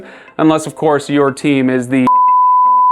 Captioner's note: beep